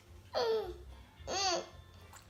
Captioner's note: groans